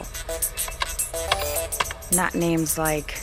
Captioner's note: keys clacking